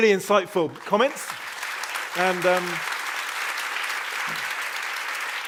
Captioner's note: applause